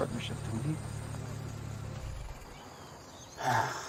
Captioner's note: engine stops; Travis sighs